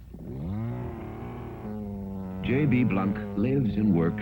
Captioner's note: saw roaring